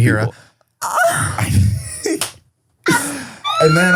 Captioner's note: imitates girl moaning; laughs; laughing